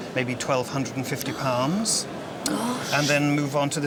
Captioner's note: gasps